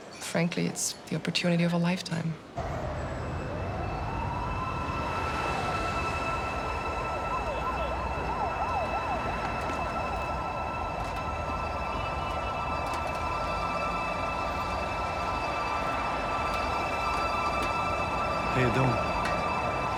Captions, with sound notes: Frankly, it's the opportunity of a lifetime. (sirens wailing) - How you doing?